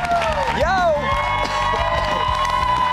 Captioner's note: cheers and applause